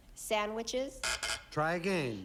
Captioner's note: buzz buzz